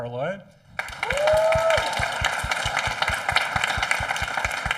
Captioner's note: audience applauding